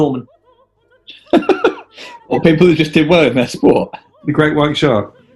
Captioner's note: giggling